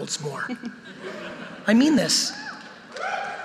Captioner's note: audience laughing